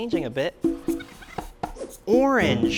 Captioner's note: sped up voice squeaks